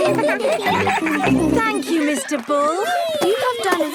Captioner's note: giggling